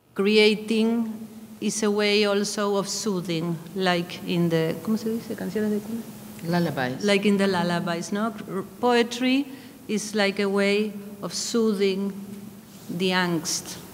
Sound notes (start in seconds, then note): 4.4 speaking in a foreign language